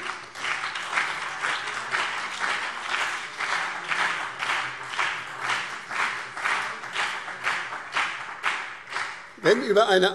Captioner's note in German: Beifall BÜNDNIS 90/DIE GRÜNEN und CDU